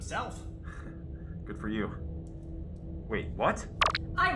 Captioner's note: chuckle